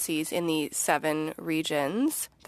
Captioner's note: speaking French